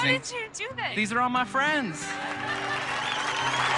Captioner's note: mob laughs